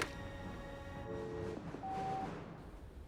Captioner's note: dial tone